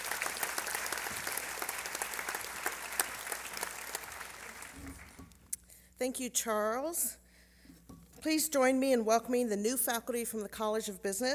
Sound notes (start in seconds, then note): 3.2 applause